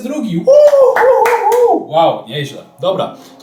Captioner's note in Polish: okrzyk radości